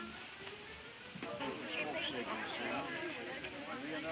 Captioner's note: people chatting